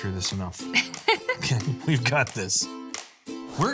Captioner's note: laughing